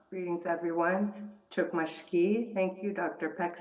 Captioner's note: non-english speech